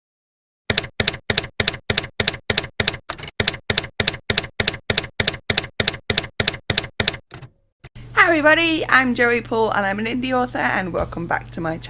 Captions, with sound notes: [TYPEWRITER KEYS CLACKING] Hi everybody, I'm Joey Paul, and I'm an indie author, and welcome back to my channel. I write young adult fiction